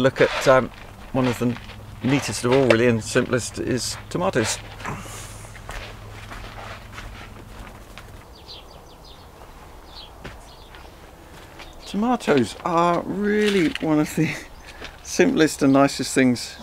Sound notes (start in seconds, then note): 5.1 footsteps crunching; 9.1 birds chirping